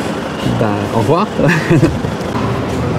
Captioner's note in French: rire gêné